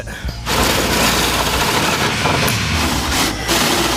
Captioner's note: drilling